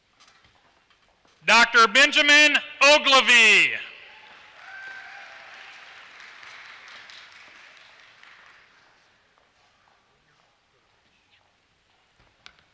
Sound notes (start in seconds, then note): 4.1 applause